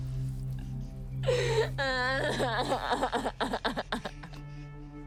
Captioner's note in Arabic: تنهد